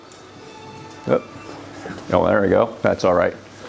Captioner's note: phone rings